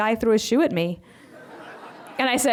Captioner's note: laughter